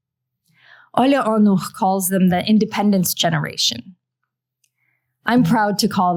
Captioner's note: non-english